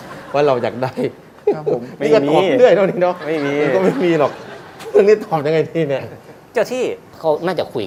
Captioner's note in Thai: หัวเราะ